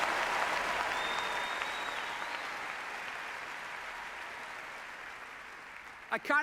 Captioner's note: applause